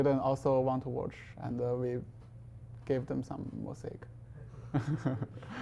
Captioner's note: chuckling